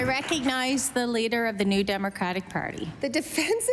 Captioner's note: applause